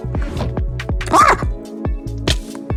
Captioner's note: screams